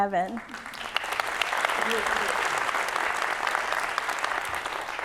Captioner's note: audience clapping